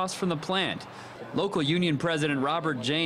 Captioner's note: / :nats of cars